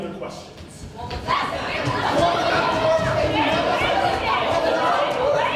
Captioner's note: ensemble exclaims chaotically